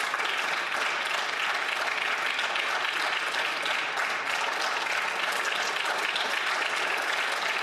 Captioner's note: applause